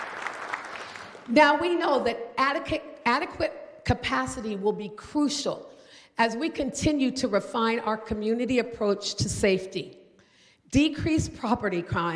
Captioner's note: applause